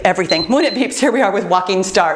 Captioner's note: timer beeps